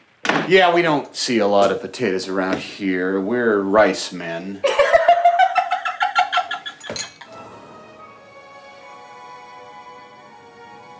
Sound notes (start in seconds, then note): 4.6 Victoria giggling; 7.2 dramatic music